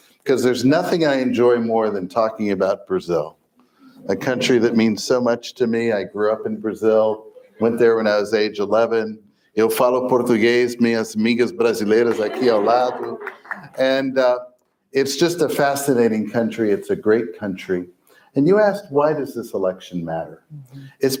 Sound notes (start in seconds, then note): 10.1 foreign language